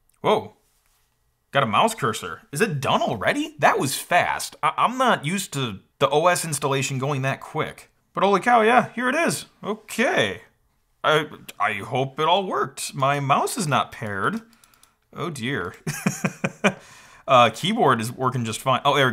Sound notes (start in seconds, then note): 15.8 chuckles